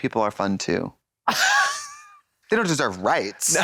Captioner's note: Katya titters